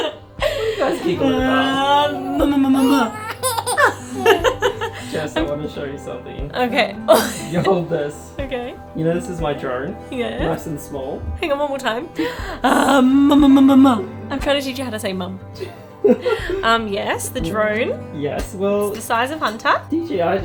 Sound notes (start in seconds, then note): 0.0 laughing; 12.9 cooing; 15.6 laughing